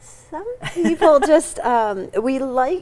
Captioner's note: laughs